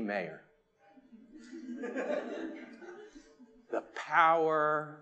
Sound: attendees laughing

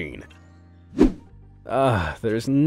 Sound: transitional wipe-screen rushing sound

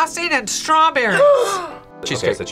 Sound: gasps

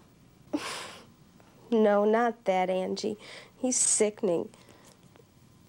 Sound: scoffs

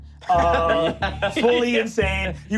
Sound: laughing

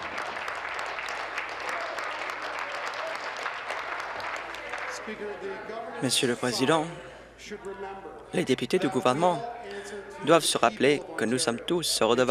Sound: applause

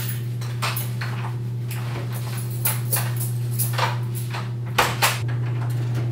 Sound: key sounds; door opens and closes

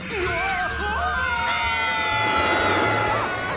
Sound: screaming

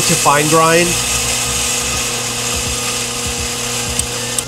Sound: machine whirring

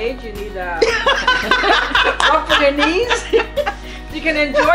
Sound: laughing

